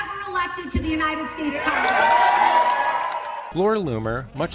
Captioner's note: cheering